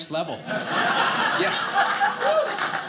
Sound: audience laughing

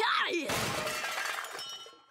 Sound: grunting; glass breaking

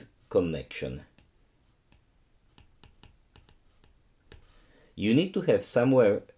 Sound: screen tapping

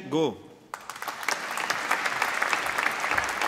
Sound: applause

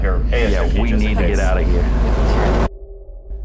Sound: static stinger swelling

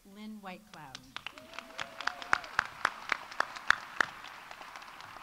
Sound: audience applauding

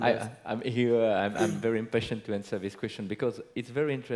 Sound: laugh

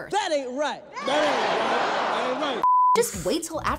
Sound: crowd

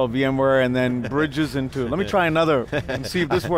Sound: laughs

